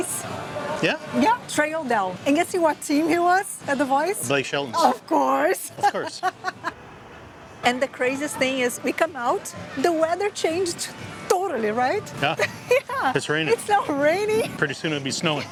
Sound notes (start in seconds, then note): 5.8 laughs